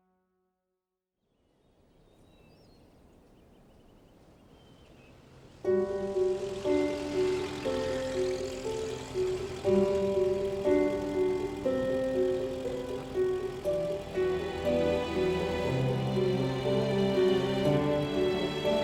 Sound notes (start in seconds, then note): 2.0 birds twittering; 6.0 light melodic orchestral music